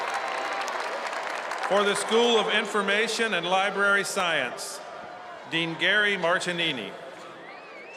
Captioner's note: cheers and applause